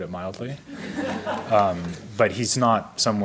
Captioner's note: audience laughs